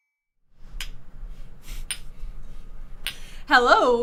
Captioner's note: clinking measuring cups